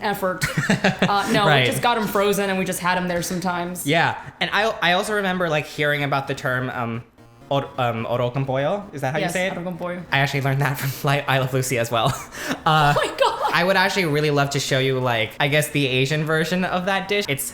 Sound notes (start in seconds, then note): 12.1 laughs